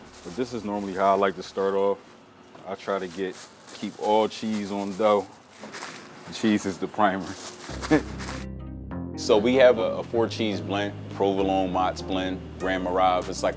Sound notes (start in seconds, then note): 0.0 gentle music; 7.3 gentle music; 7.7 chuckling